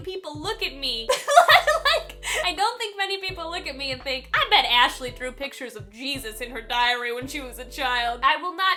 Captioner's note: laughing loudly